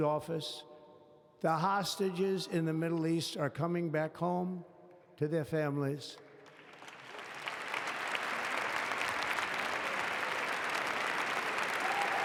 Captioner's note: applause